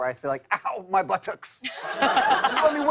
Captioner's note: laughter